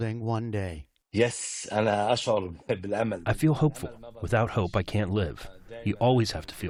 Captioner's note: through translator